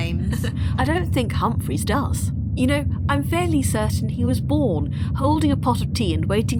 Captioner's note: laughs